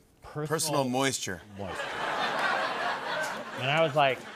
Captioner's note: laughter